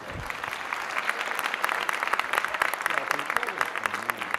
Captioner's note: audience applauding